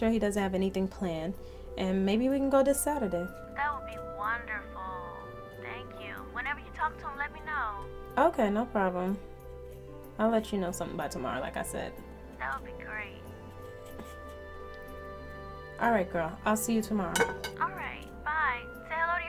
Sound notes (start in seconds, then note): 17.1 dishes clanking